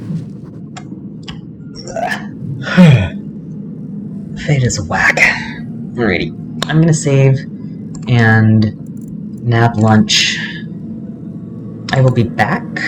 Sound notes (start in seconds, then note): 2.6 yawn